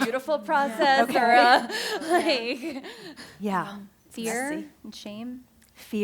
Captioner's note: laughter